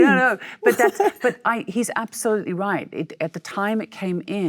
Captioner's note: Michelle laughs